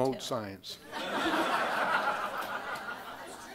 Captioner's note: crowd laughing